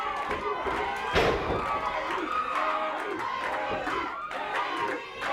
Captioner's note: crowd chanting